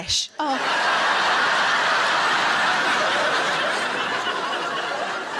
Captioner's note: audience laughs